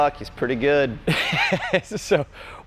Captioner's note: laughs